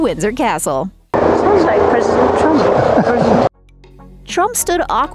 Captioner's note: helicopter whirring